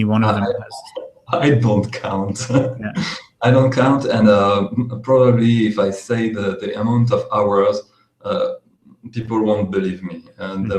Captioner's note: laughs